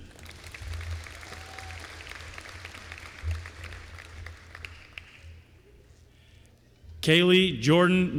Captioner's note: applause